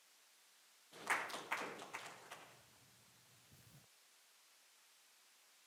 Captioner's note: audience applauding